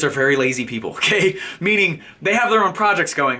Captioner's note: laughing